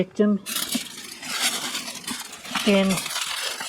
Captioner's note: sound of foil scraping; foil crinkling and making popping noise